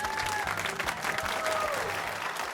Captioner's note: cheering